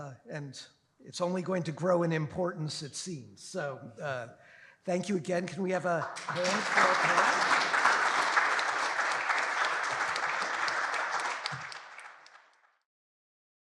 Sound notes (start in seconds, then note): 5.8 applause